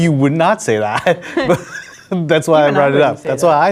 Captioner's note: laughing